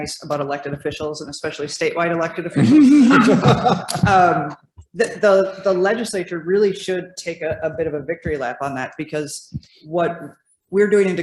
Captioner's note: laughs